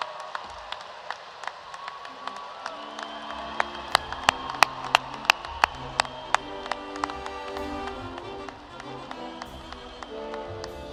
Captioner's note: cheers and applause